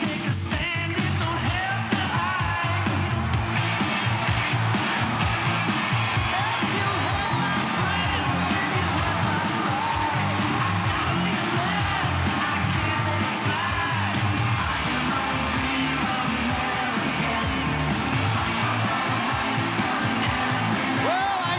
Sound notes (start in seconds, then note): 4.4 crowd chattering; 4.4 upbeat rock music continues; 19.3 crowd cheering